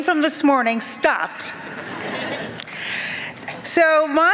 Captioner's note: laughter